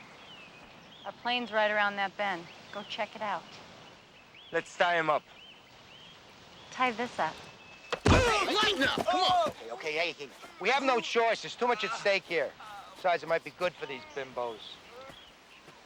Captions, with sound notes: - Our plane's right around that bend. Go check it out. - Let's tie 'em up. - Tie this up. (body thudding) (Martinez groaning) - Hey lighten up, come on. Okay hey, hey. - We have no choice, it's too much at stake here. Besides it might be good for these bimbos.